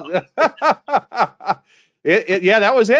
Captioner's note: laughs